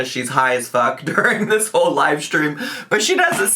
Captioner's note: laughs